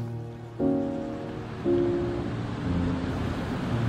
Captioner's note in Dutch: Geluid van golven samen met muziek